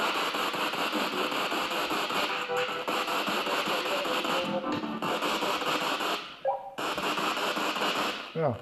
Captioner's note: radio noise from the spirit box